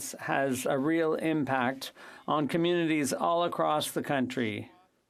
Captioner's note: speaking French